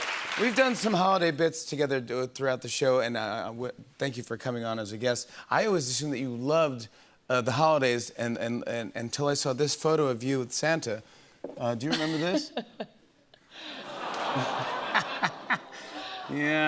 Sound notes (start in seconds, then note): 12.6 audience "awws"; 13.7 laughs